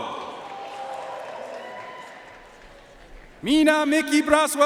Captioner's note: audience cheering and applauding